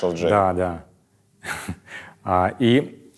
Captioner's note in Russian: усмехается